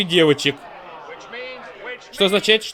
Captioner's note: crowd groans